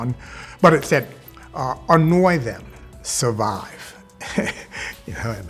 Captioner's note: laughs